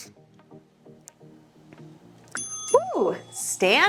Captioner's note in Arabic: رنين الجرس